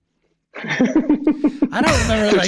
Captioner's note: Rob laughing